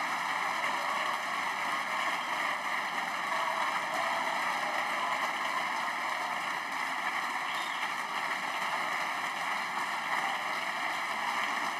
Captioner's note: applause